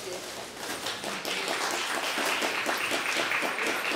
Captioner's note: applause